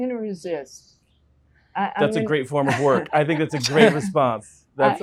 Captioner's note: interviewees laugh